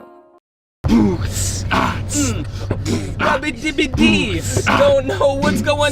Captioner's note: is beatboxing